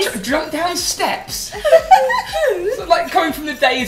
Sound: laughter

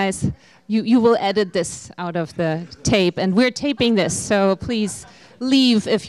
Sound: laughter

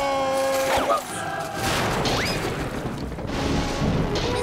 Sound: thundering

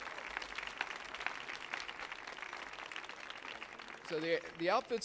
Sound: audience applauding

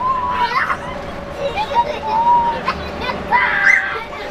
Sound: kids laughing

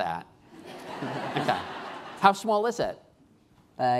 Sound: laughing

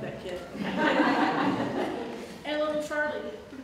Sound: audience Laughter

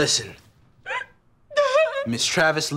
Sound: crying

